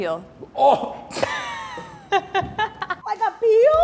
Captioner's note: laughing